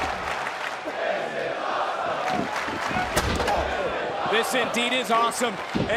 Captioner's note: crowd chants "this is awesome"